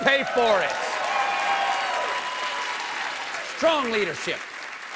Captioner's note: cheers and applause